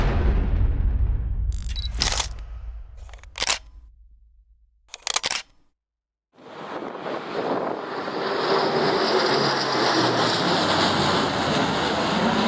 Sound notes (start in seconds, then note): 1.5 camera clinking; 8.6 plane engine roaring